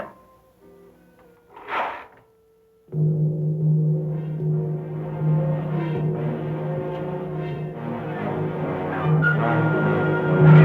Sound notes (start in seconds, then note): 0.9 clicking; 3.0 dramatic orchestra music